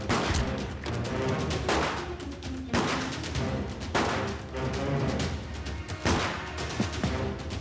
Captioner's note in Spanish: continúa la balacera